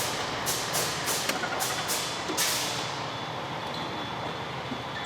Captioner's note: engine rumbling